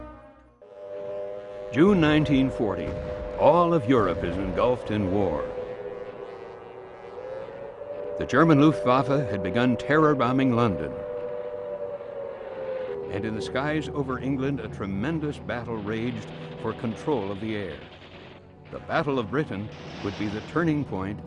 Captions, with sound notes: June 1940, all of Europe is engulfed in war. (sirens wailing) The German Luftwaffe had begun terror bombing London, and in the skies over England, a tremendous battle raged for control of the air. The Battle of Britain would be the turning point